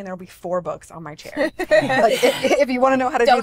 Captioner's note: all laugh